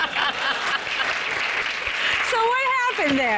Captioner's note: laughter